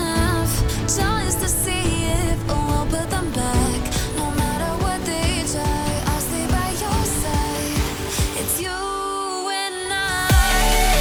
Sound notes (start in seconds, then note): 0.0 wind blowing; 3.7 upbeat music